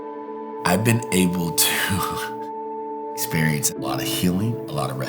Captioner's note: laughs